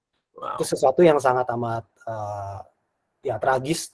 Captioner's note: non-english speech